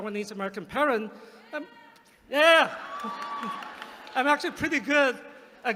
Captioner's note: applause